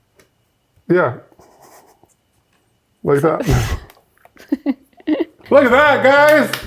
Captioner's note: both laughing